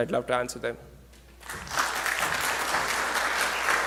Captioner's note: clapping